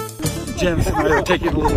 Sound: group laughing

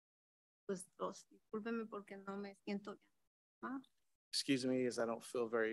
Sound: speaks in Spanish

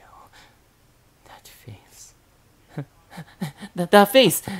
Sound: chuckle

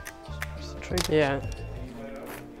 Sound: camera shutter clicks

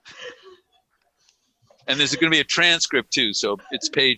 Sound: laughter

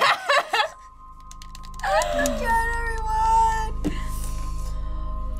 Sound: laughs; clicks buttons furiously

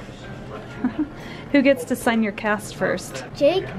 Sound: laughs

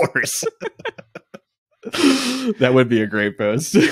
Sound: laughing

